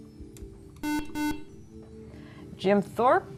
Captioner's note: buzzer